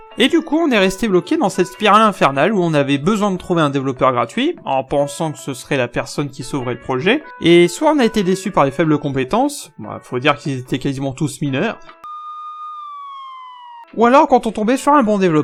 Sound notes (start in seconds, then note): 12.0 police sirens